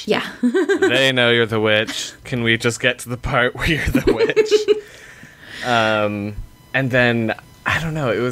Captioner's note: laughter